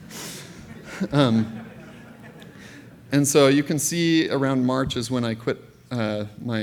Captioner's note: laughter